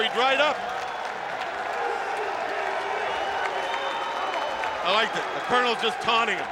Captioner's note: applause